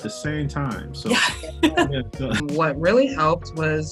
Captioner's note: laughs loudly